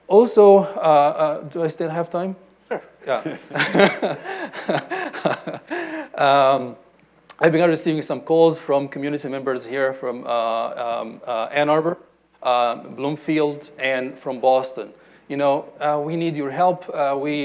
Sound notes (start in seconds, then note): 2.7 panelist laughing